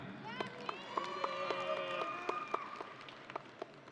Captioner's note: audience cheering